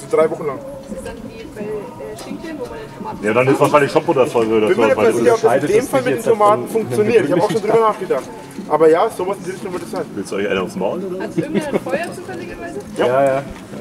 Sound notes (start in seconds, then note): 1.7 grumble and patter